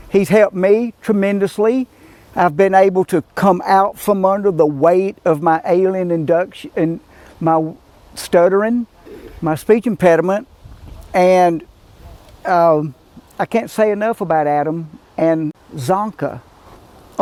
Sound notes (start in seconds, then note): none